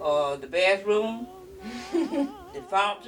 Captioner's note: laughs